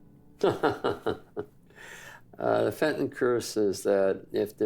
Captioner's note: laughs